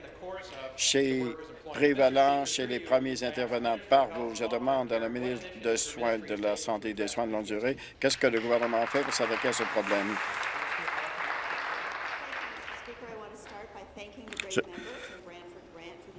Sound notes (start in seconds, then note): 13.3 applause